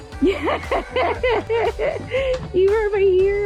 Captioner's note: laughing